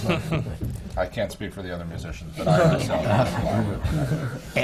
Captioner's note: laughter